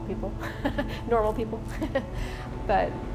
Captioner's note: laughing